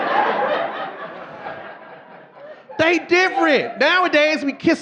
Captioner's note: audience laughing